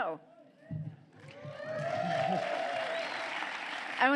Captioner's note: applause